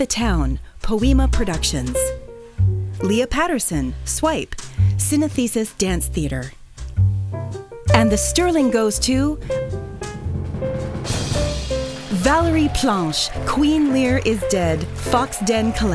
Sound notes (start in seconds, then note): 9.3 drumroll; 11.2 applause